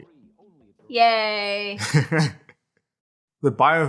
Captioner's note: sarcastically